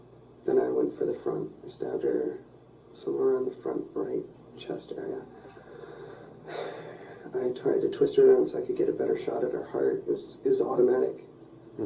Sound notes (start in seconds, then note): 5.4 sighs